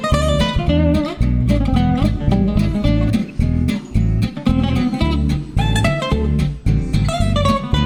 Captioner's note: none